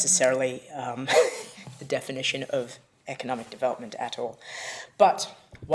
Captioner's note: laughs